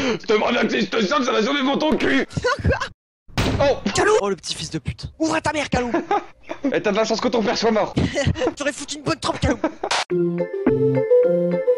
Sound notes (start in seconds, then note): 3.3 door slamming; 10.2 ending music